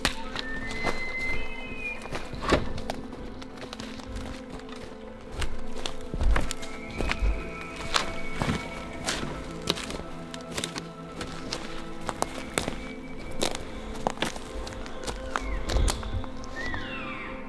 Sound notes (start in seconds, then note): 0.0 elk Bugling; 6.8 elk Bugling; 12.1 elk Bugling; 15.0 caller cow calling